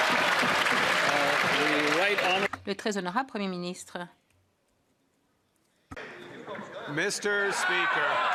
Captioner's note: cheers & Applause